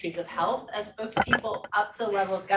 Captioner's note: objects clatter